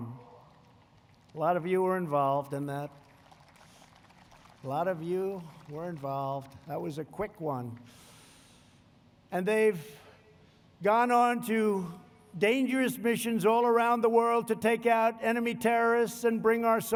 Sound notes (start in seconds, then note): 3.0 applause